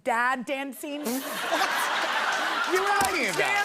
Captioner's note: laughter